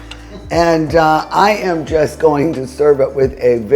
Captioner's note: speaker chuckling